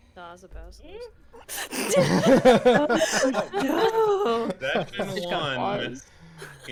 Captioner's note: laughter